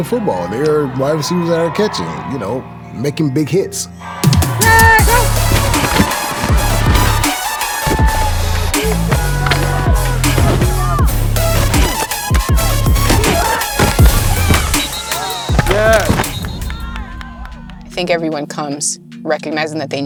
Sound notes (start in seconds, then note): 5.6 helmets crunching; 5.6 upbeat music; 14.1 whistle chirping